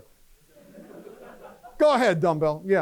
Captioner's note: laughter